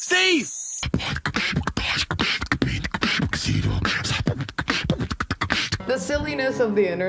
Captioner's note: beatboxing Chipmunk